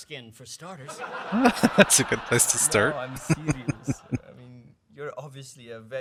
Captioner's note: chuckling